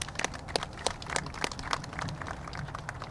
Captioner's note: applause